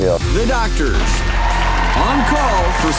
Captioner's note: audience cheers